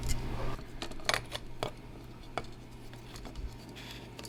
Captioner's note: bulb clinking